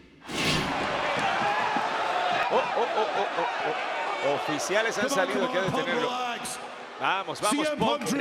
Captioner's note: applause